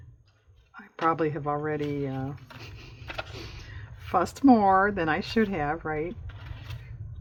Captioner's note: laughs